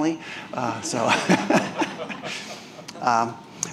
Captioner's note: chuckling